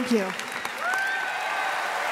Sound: applause and cheering

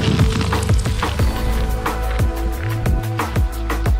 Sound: footsteps

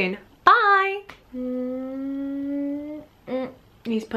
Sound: kissy sounds

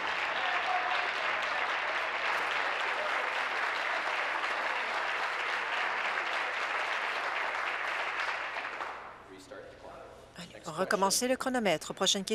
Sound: applause

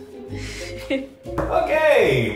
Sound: laughs

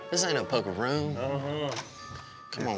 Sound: door opens

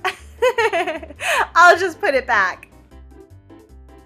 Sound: laughs

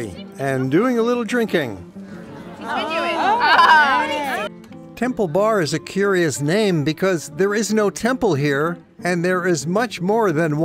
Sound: laughter

